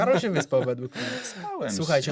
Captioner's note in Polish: wciągnięcie powietrza